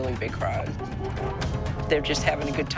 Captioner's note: car horns honking